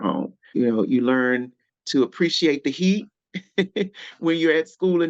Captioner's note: chuckling